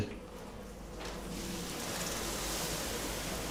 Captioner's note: soft hissing